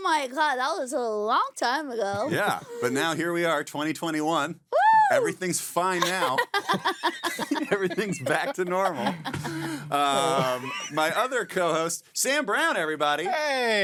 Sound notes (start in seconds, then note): 4.7 screaming; 6.0 laughing